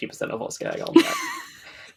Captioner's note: laughs